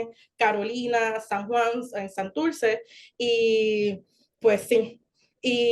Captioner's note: continues speaking Spanish